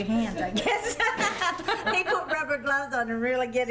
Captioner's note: ladies laugh